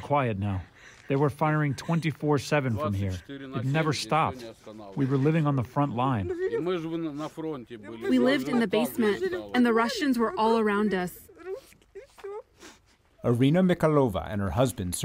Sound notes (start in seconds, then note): 7.0 through translator